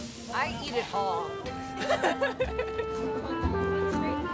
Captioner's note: laughter